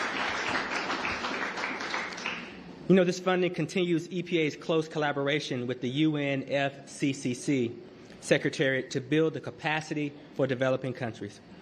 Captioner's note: applause